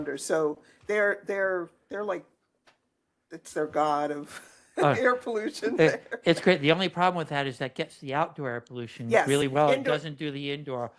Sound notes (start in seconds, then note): 5.7 laughs